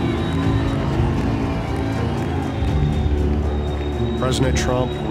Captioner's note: crowd cheering